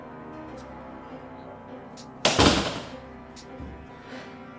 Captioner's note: ball catch; door closes; ball catch